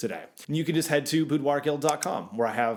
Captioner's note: clicking